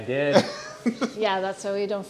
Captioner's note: laughing